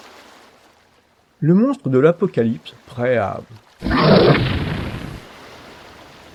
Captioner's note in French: bruitage monstre avalant une proie